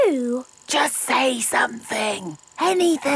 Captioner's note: camera whirring; whispering